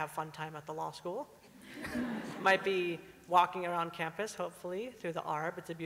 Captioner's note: laughter